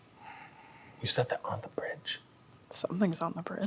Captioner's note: whispers